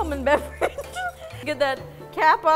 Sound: giggles

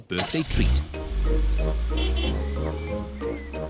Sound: horn honks

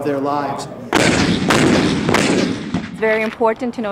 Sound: cannons firing

